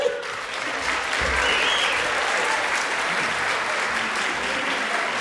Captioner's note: audience applauding